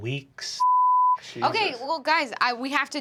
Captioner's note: beeping